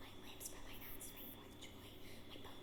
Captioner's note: whispers